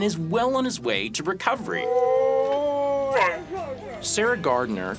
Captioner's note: dog howling